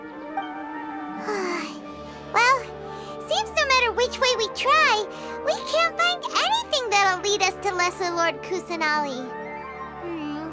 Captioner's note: sigh